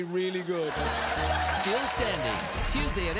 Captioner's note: audience laughing